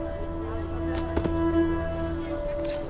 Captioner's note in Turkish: Ayak Sesi